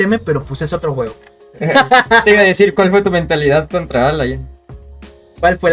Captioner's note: laughs in double team